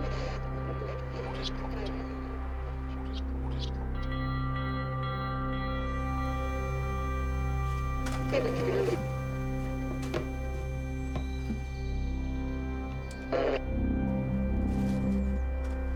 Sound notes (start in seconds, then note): 5.0 suspenseful music; 8.1 static crackles